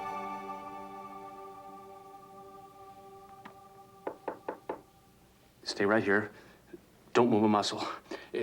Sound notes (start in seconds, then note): 4.0 knock at door